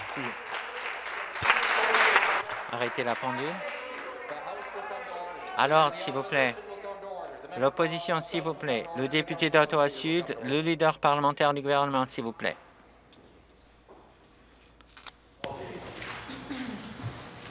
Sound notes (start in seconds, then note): 0.0 some Applause